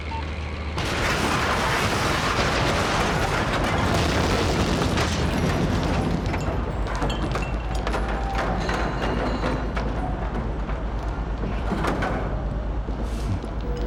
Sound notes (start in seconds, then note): 0.8 explosion booming; 8.1 rubble pattering